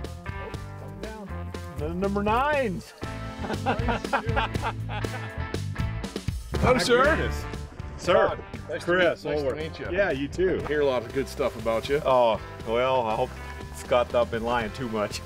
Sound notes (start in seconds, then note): 3.4 laughter